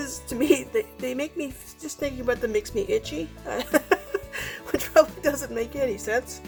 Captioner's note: laughing